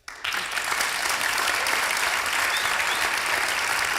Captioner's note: applause